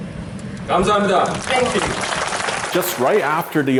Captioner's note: speaking in Korean